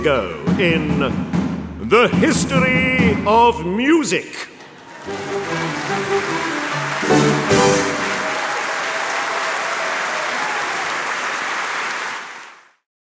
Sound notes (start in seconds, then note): 8.3 cheers and applause